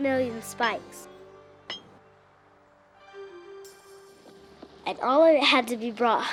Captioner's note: train spike hammering